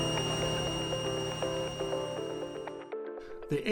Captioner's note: devices humming; energetic upbeat music